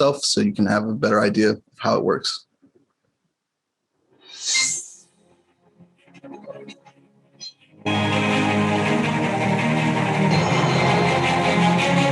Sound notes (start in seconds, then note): 4.3 whooshing sound; 8.6 bright music